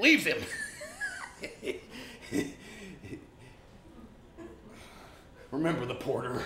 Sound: laughs

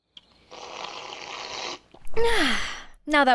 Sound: loud slurping

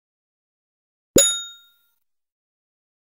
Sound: sound of bell

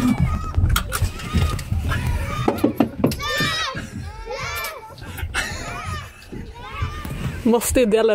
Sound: chanting ice cream

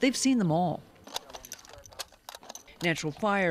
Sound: rifle shells clinking

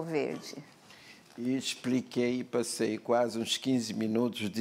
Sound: speaking portuguese

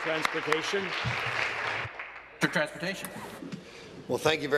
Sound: applause

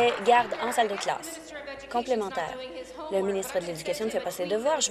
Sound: applause

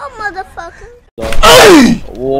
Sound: death cry

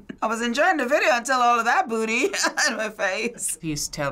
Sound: chuckles; laughs

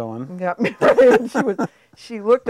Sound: chuckling

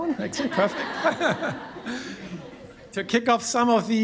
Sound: all laugh

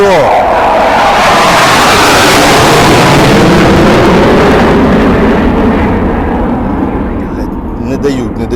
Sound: sound of fighter engine

